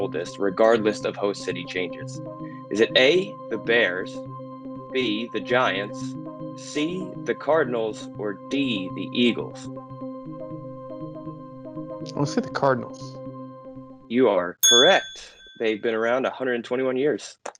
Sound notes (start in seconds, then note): 9.6 mysterious instrumental; 14.6 bell dings